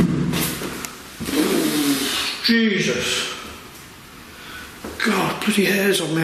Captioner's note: loud banging; blows raspberry